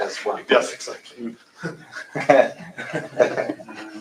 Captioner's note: laughter